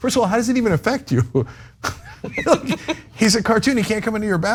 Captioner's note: laugh